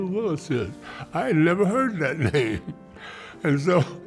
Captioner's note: laughs